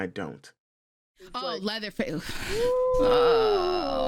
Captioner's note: sighs